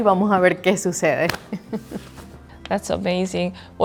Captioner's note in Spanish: Risas